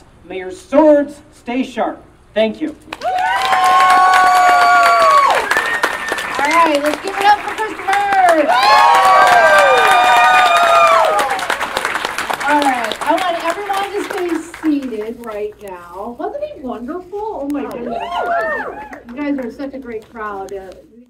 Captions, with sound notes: May your swords stay sharp. Thank you. [Audience Cheering and Clapping] Alright let's give it up for Christopher. [Cheering and Clapping Continues] Alright, I'd like everybody to stay seated right now. Wasn't he wonderful? Oh my goodness. You guys were such a great crowd.